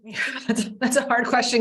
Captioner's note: laughing